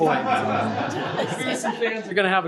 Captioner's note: laughter